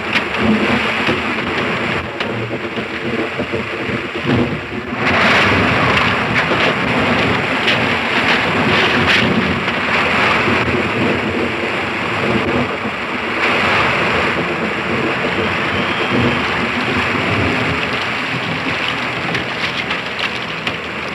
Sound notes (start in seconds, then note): 0.2 rushing water; 0.2 thunder rumbling; 5.4 crashing; 7.7 rushing water; 7.7 thunder rumbling